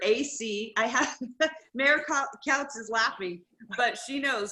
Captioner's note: laughs